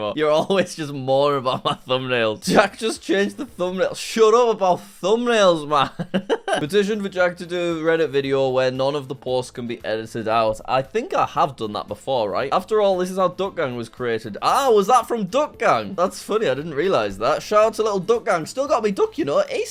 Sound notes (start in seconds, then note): 5.8 laughs